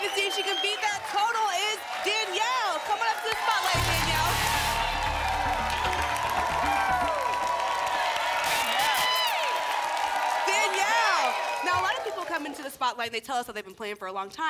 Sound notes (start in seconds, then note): 3.7 static; 6.9 applause and cheering cont; 8.4 static; 9.4 applause and cheering cont